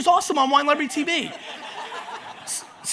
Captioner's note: audience laughs